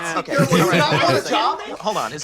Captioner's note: lawyer laughs